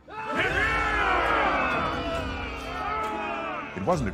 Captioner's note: soldiers cheering